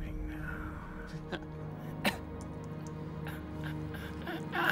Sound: Gabriel groans

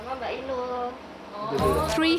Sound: woman speaking in foreign language

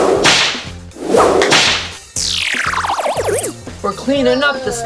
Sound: gloves snapping

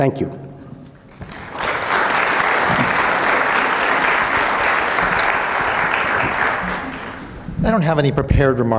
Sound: audience clapping

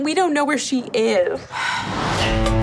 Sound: sigh

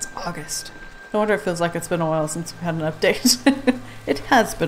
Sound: laughs

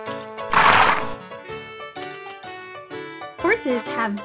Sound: horse snorting

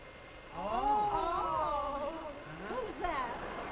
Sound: women ooh and ah

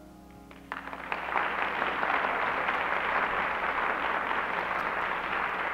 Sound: applause

